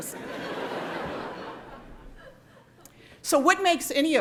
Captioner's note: laughing